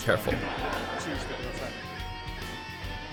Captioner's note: laughter